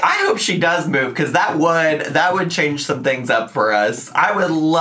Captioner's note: none